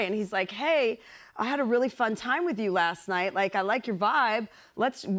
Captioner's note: none